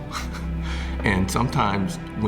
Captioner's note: chuckling